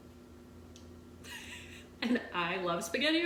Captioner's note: laughing